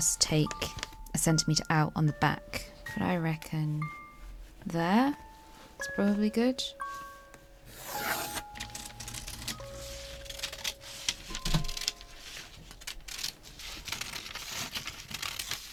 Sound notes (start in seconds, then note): 7.7 pencil scratches; 10.1 scissors snipping